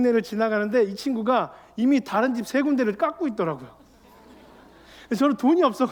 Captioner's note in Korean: 웃음